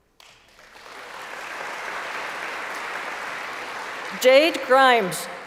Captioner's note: applause